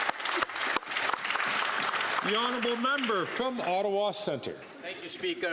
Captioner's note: some Applause